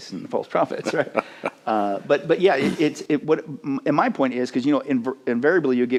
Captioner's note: chuckles